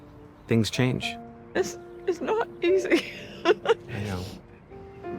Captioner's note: laughs